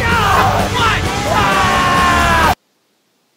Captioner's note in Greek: ουρλιαζει